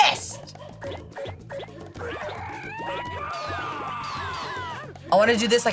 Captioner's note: upbeat goofy music; objects chiming